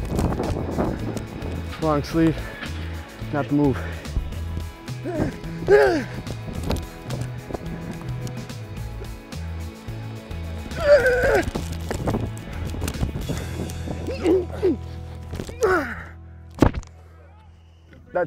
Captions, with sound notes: - Long sleeve, not the move. [grunting] [yelling] [grunting] - That's salsa. Yeah.